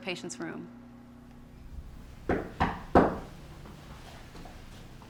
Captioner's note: knock at door